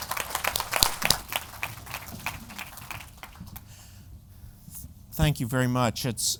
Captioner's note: applause